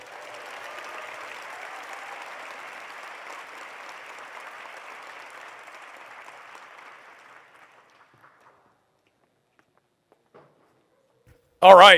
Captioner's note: applause